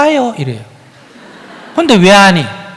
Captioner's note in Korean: 청중 웃음